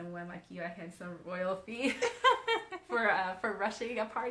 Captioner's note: both laughing